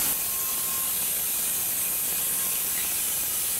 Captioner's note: machine sawing